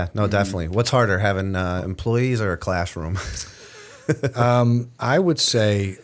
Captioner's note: chuckle